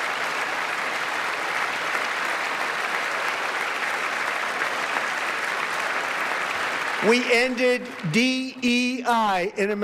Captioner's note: applause